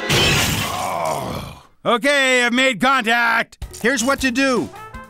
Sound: groan

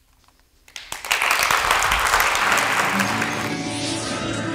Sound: applause

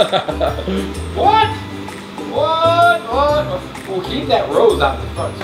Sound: laughing

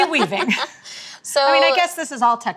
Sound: laughing

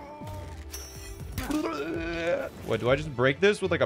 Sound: imitating calls of pain

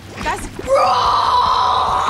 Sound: roaring

